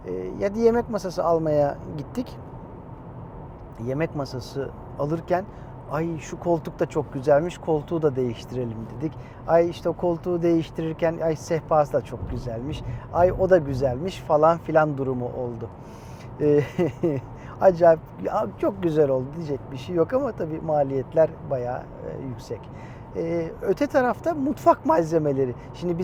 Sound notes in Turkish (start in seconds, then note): 16.5 kahkaha